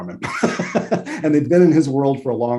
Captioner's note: laughs